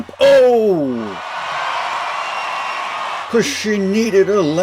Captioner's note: crowd cheering